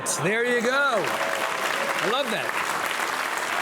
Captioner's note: audience applauding